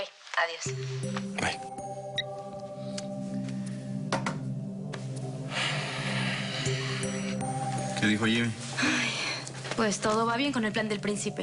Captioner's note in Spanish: Bip